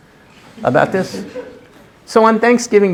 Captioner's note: laughter